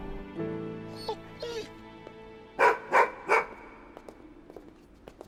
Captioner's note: dog whines and barks